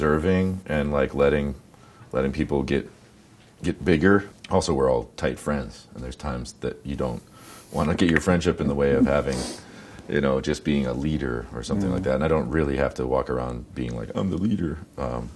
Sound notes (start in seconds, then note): 7.5 cracks knuckles